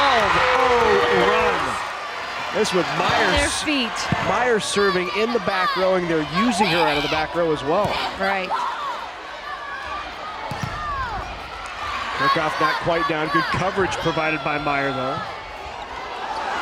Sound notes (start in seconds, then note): 10.8 players yelling